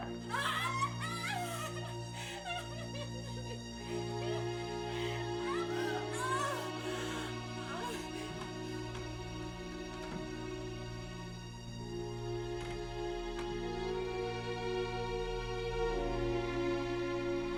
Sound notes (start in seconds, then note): 0.0 crying; 4.9 moaning; 8.1 soft dramatic music